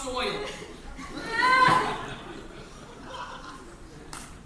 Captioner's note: Ermengarde cries